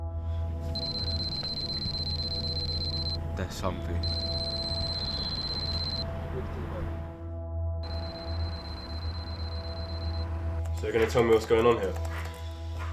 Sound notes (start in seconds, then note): 0.7 beeping